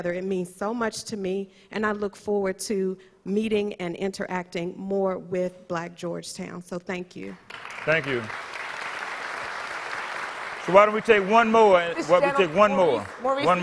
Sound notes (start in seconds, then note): 9.0 audience applause